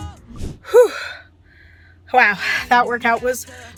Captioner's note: sighing